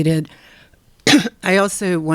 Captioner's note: coughing